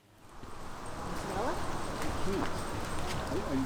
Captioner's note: indistinct chatter